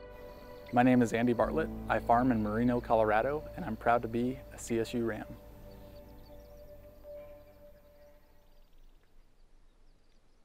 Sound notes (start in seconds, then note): 6.2 birds chirp